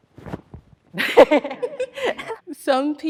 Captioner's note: laughing